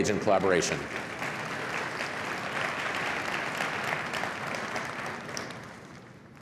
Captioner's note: applause